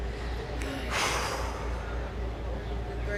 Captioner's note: sighing